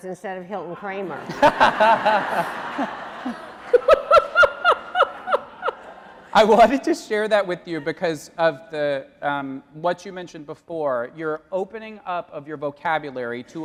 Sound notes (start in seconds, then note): 1.0 audience laughing